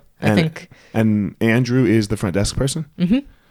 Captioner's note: none